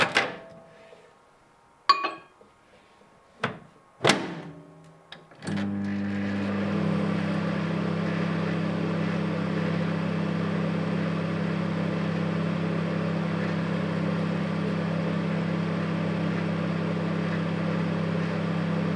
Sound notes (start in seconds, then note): 0.0 microwave door opening; 4.0 microwave door closing; 5.4 microwave turning table